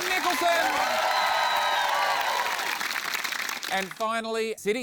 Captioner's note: cheering, applause